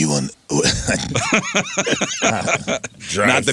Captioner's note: laughing